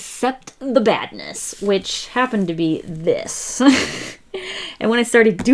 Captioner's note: laughs